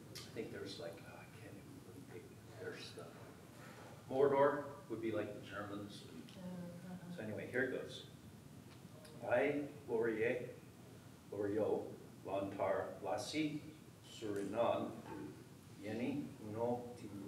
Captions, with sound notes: I think there's a, there's Mordor, would be like the Germans, and anyway, here it goes. (speaking foreign language)